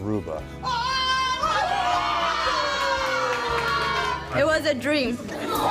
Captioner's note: applause